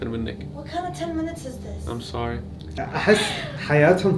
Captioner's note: speaks in English